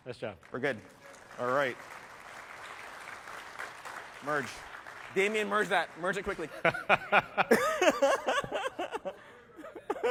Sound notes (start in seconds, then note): 1.8 applause; 6.4 laughter